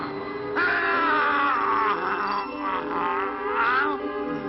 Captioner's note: werewolf shrieking